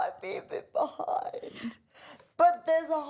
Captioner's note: laughs